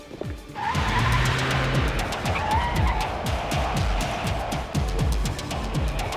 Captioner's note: suspenseful orchestral music; tires screeching